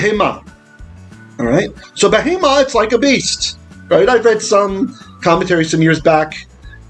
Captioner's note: Hebrew